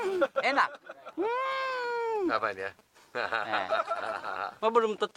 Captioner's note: laugh